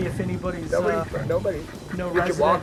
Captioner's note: dog barks